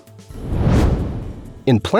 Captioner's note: whoosh